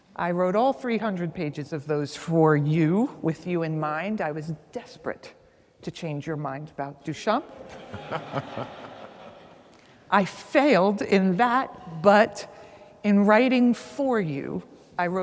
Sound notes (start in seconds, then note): 7.5 audience laughs; 7.6 laughs